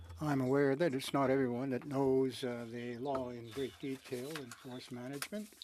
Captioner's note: speaking French